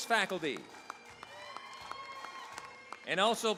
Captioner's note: cheering, applause